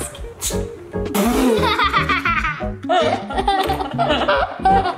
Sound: girls laughing

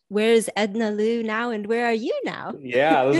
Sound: laughs

